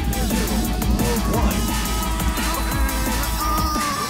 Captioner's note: crowd cheering